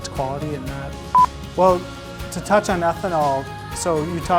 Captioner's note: audio beeps